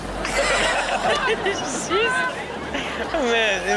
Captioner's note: all laugh